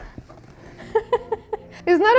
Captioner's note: laughs